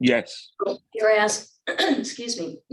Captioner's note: throat clearing